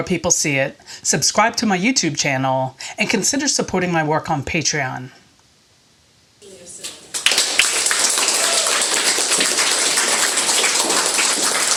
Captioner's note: applause